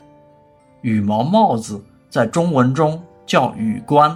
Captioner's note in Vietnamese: tiếng Trung